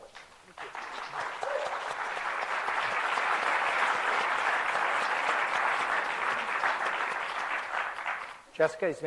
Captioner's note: applause